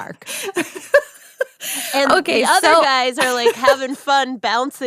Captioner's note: laughs